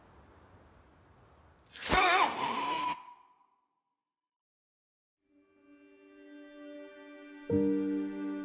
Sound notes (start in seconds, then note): 1.8 gasping; 5.2 slow music